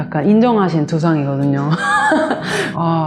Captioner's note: laugh